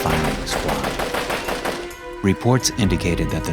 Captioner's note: heavy gunfire